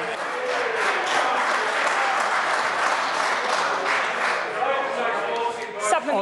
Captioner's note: members applaud